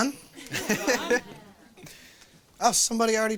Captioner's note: laughs